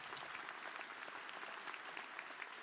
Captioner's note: applause